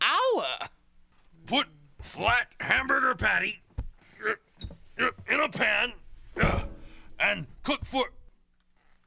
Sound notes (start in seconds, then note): 3.2 grunting